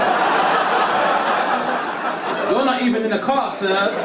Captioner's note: audience laugh